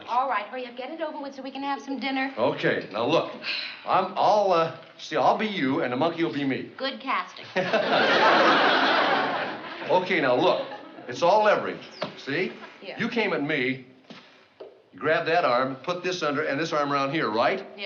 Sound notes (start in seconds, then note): 7.4 laughs